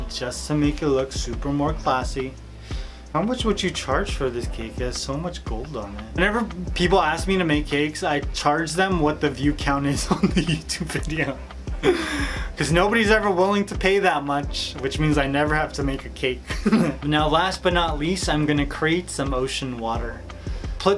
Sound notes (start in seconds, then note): 10.1 laughing